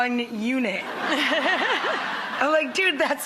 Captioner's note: laughter